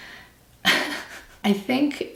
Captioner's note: laughs